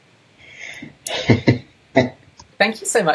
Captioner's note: laughs